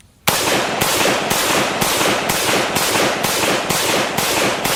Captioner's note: fires rapid shots